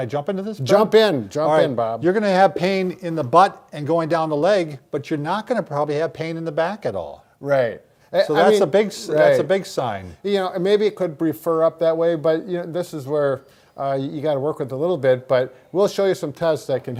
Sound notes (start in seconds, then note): none